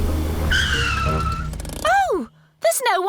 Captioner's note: tires screech